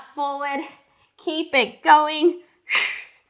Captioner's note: breathing sharply